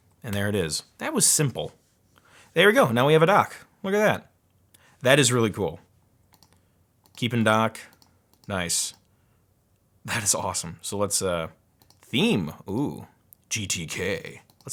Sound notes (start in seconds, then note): none